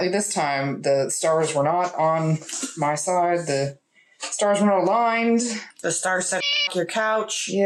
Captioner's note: meow